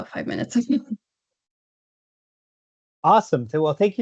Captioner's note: chuckles